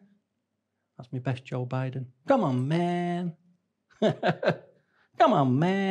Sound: laughs

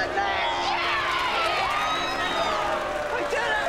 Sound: cheering

